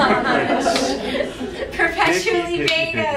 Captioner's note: laughing